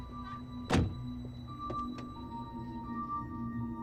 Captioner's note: suspenseful music; car door thuds; suspenseful music